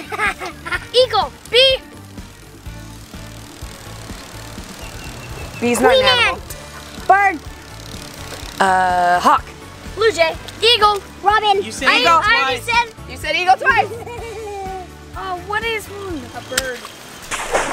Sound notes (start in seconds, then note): 0.0 laughing; 15.1 laughing